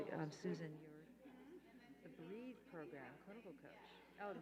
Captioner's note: murmuring